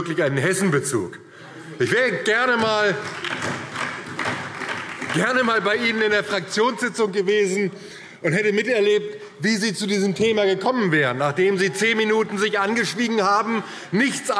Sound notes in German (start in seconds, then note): 2.5 Beifall DIE LINKE